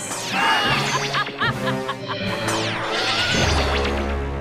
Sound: all scream; laughing

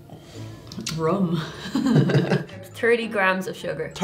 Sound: laughs

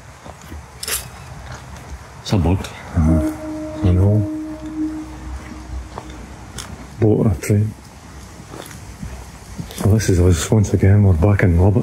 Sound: horn blast

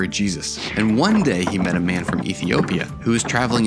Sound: footsteps; wooden wheels creaking

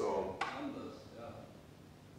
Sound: light switches

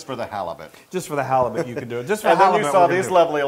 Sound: laugh

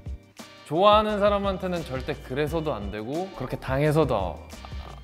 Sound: speaks Korean

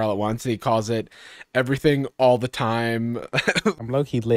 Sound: chuckles

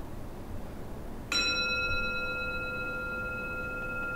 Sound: gong

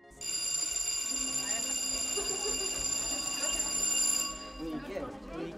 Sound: school bell ringing

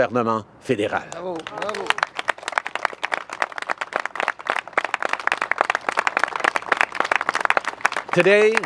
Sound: applause and bravos

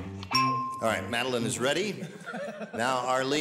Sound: ding

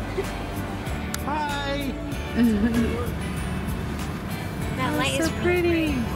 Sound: giggling

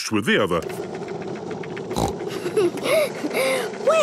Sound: giggles, snorts

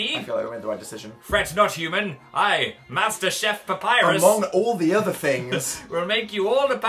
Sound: laughs

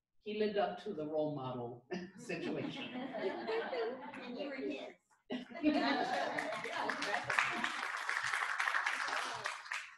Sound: laughter; clapping; laughter

